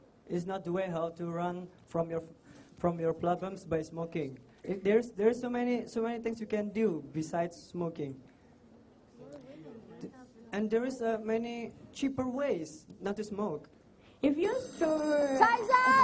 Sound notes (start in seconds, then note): 14.4 bell